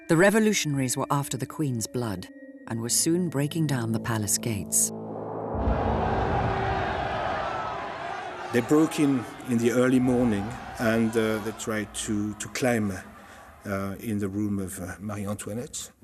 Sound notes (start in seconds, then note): 5.5 crowd roaring; 5.7 tense music